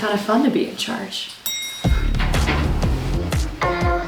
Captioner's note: elevator door dings